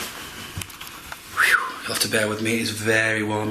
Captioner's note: whistles